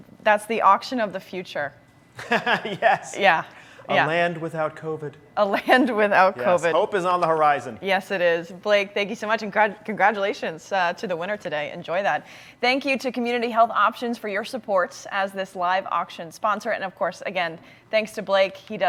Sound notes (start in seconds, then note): 2.2 laughing